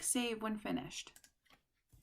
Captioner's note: click